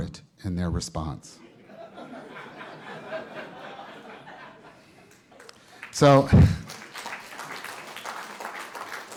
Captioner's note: laughter; applause